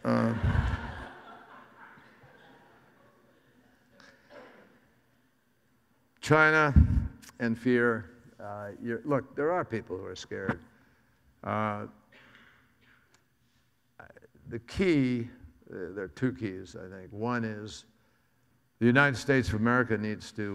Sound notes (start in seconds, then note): 0.0 audience laughs